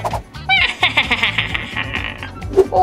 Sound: evil laughter

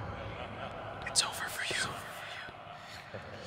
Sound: whisper

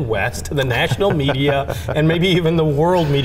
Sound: chuckling

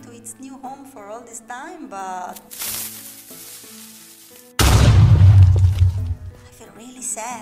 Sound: Creeper explosion

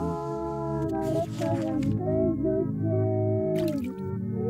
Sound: splatting; paper riffling; sloshing

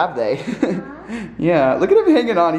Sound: laughing

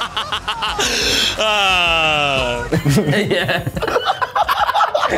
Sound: laughs

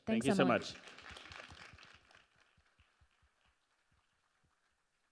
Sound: people applauding

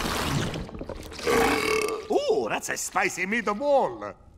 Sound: belching

